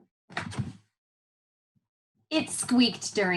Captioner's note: book page flipping